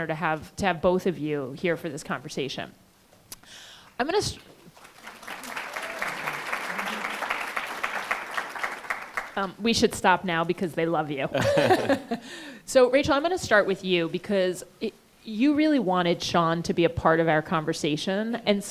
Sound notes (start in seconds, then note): 4.7 audience applause